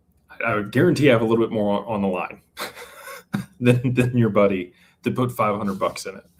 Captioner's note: laughter